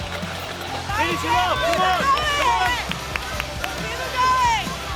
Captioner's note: upbeat music; crowd cheering